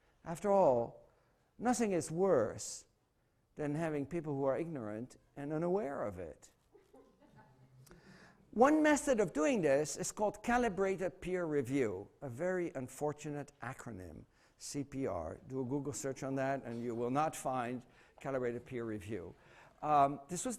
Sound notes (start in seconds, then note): 6.7 laughter